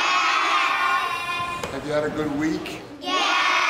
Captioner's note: children in unison